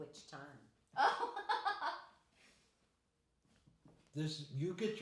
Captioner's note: laughing